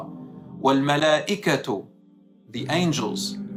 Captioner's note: Arabic